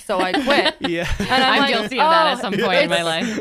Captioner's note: laugh